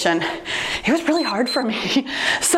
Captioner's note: timer beeps